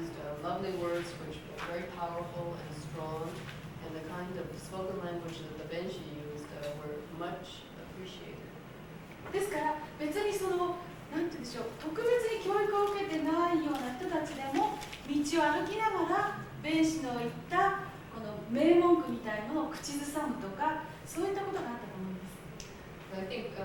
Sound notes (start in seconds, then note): 10.3 speaking Japanes